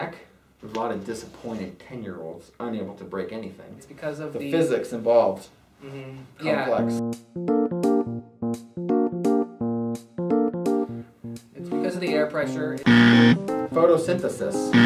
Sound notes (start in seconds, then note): 12.8 buzzer sound